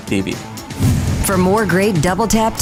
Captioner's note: logo whooshing